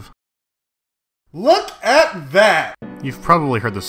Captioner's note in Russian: плак